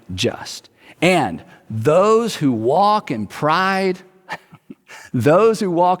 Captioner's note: chuckles